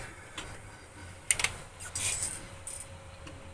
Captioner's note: clicking